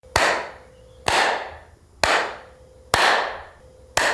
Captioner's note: loud clapping